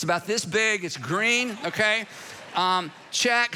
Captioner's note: congregation laughing